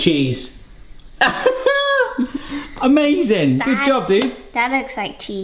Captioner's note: chuckles